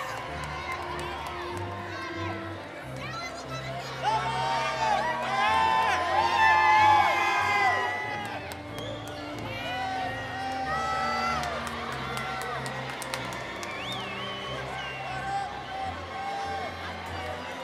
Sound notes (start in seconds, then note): 4.3 cheering continues; 4.3 inspirational music